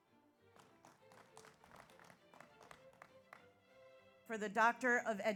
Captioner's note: audience applauds